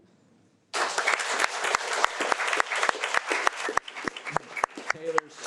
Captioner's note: audience applauding